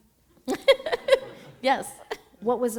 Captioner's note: laughter